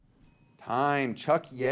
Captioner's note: bell dings